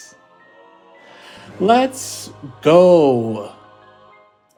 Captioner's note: gasp